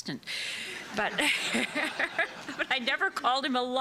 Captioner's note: laughter